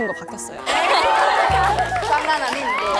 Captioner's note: all laughing